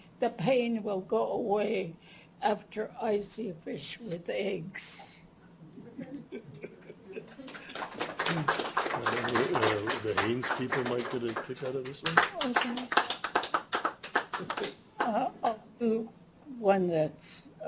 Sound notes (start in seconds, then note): 5.8 laughter; 7.4 applause